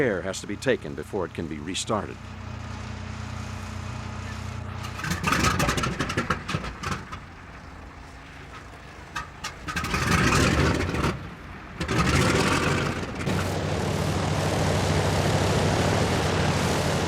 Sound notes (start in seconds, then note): 4.8 engine sputters, stalls, and sputters anew; 13.4 engine humming